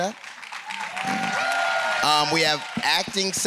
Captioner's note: applause